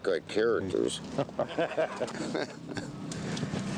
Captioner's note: laughing